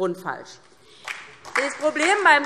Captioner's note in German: Beifall DIE LINKE